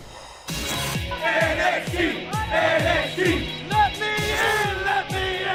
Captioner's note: fans chanting